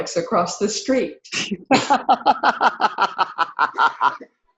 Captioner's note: laughs